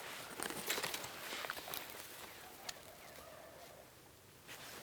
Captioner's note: undergrowth rustling